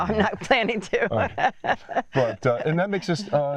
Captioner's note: laughs